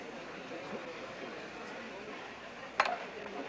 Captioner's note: indistinct chatter